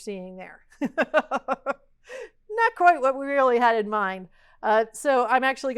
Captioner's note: laugh